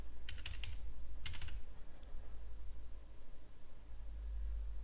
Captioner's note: typing on keyboard